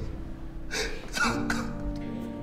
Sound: sobbing

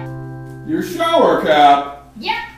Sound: voiceover

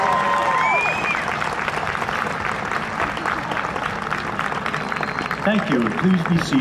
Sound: audience cheering and applause

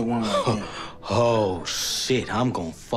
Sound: laughing

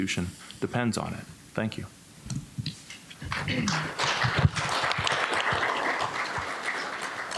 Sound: applause

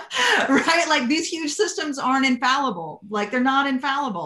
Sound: laughter

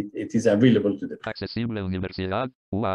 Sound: speaking spanish

